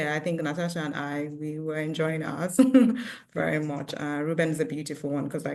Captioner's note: chuckles